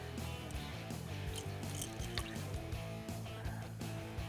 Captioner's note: rattling